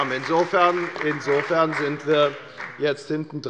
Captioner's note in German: Beifall bei der FDP und bei Abgeordneten der SPD